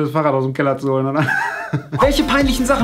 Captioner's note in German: Lachflash